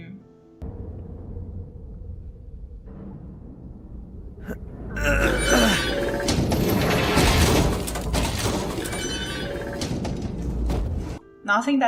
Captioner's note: squeaky metal and rocks falling